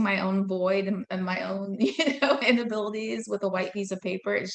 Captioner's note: laughing